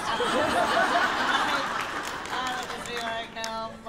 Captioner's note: laughter